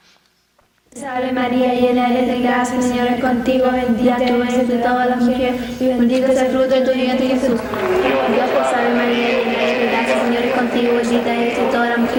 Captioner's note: speaking spanish